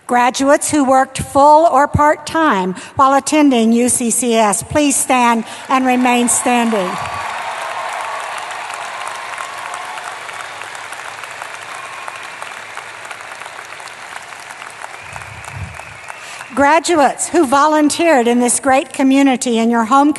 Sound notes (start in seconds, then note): 7.8 applause